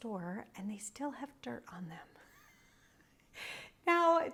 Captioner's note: laughs